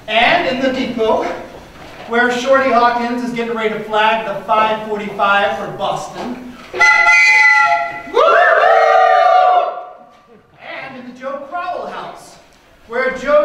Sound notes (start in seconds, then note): 6.7 mimicking train whistle; 6.7 train whistle